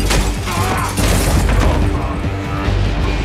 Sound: mirror breaks; men grunt

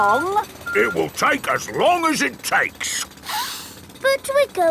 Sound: sniffs

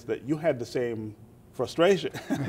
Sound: laughter

